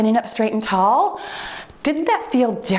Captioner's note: timer beeps